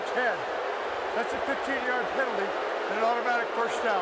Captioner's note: booing